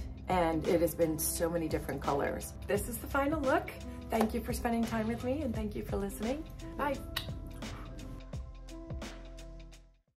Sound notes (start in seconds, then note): 7.1 blows kiss